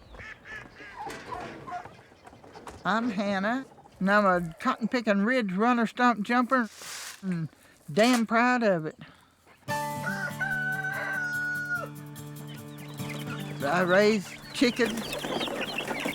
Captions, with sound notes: I'm Hanna, and I'm a cotton-picking ridge-runner, stump-jumper and damn proud of it. [crowing] I raise chicken-- [chirping]